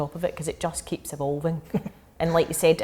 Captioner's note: laughing